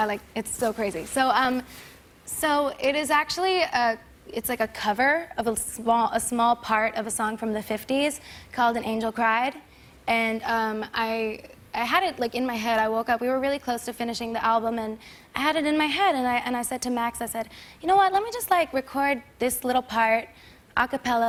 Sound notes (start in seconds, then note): none